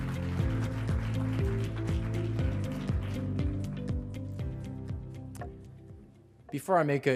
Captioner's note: applause